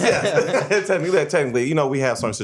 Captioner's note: laughs